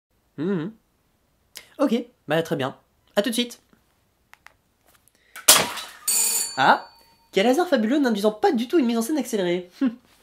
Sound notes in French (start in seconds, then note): 6.0 sonnette